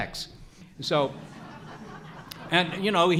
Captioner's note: audience laughs